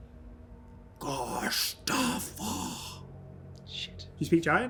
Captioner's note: Troll, in an unknown language; whispers